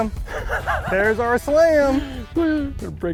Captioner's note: laughing